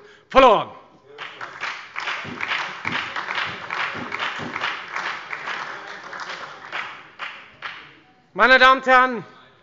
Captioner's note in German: Beifall bei der FDP und der SPD